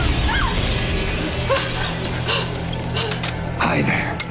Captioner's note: window shatters; Nancy screams